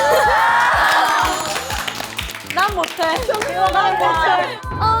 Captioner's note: applause for leader's aegyo